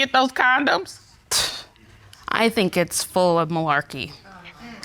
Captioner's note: scoffs